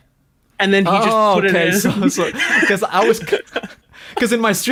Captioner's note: laughs